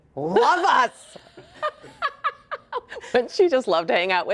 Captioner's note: laughing